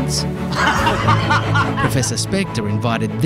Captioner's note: laughing